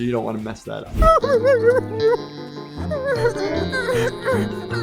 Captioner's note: Toothy whimpering